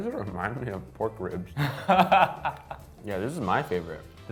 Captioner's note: laughs